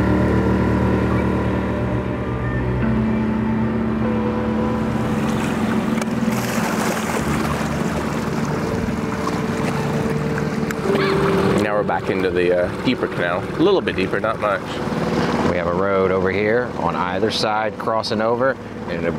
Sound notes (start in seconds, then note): 0.1 solemn music; 6.9 water splashing